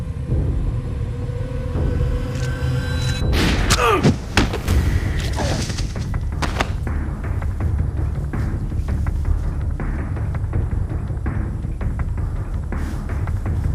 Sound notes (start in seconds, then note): 0.1 suspenseful music; 3.3 gun banging; 3.8 man grunting; 4.0 thudding; 6.0 dramatic music